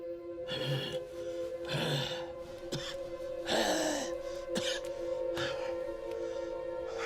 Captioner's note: gasping for breath and coughing